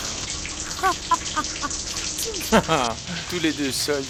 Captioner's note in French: Rires